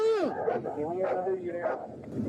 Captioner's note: radio chatter